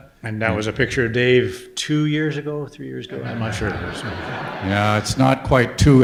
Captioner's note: audience laughter